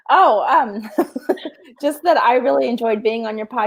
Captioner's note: laughs